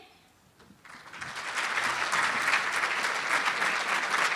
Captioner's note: applauding